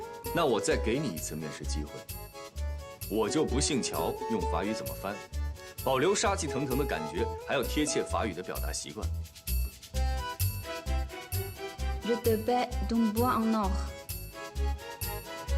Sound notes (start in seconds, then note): 11.8 French